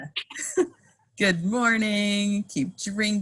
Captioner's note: laughing